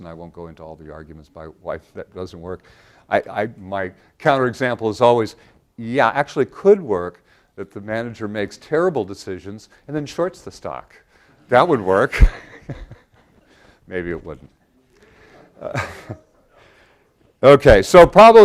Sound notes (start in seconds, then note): 12.2 laugh